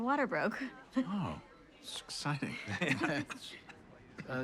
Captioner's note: Jeremy laughs, coughs